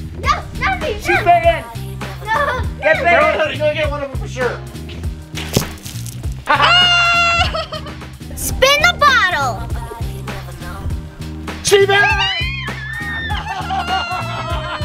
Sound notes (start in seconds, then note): 0.3 yelling; 5.3 water splashing; 6.5 yelling; 12.6 yelling